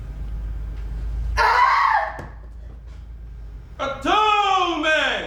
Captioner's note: screams